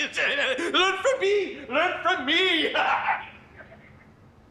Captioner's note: laughing